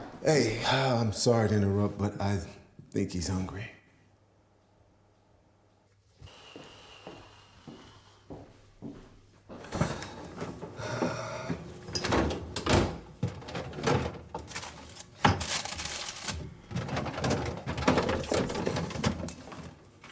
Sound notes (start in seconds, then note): 6.2 exhaling heavily; 9.7 opening fridge door; 10.7 sighing; 12.1 rustling around